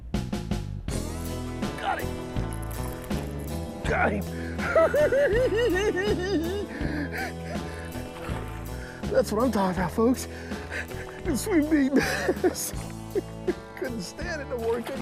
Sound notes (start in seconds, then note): 3.9 laughing